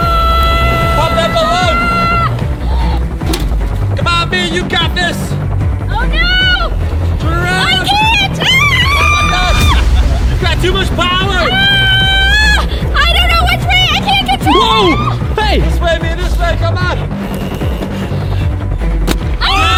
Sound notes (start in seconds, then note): 7.8 screaming; 11.4 screaming; 19.4 cheering